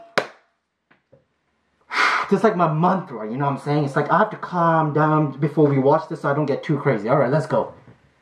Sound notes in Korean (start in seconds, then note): 1.8 심호흡